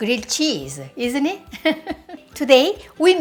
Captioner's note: laughs